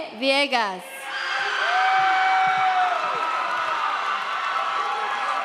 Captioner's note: audience cheers